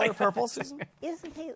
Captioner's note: laughter